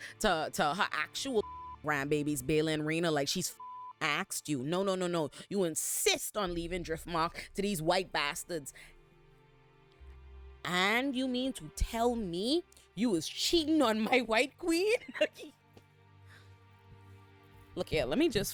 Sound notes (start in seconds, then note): 1.4 beep; 3.5 beep